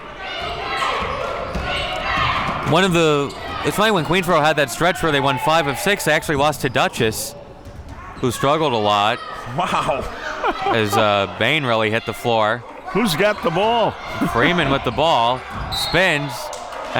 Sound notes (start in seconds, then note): 9.5 laughs